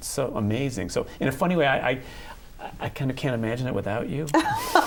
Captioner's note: laughter